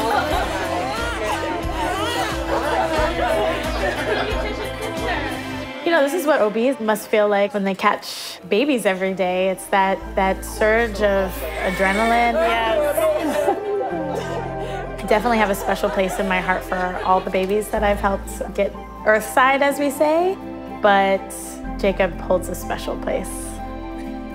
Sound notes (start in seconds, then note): 0.0 laughing; 4.6 baby crying